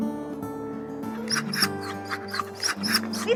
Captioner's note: wolf playing Sounds